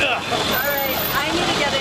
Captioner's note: imitation of a manly grunt